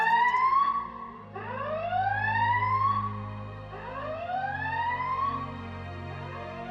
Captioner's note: alarm ringing; dramatic music